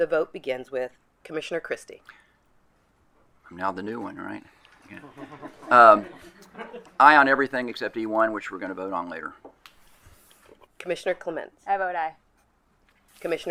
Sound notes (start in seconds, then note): 4.8 attendees chuckle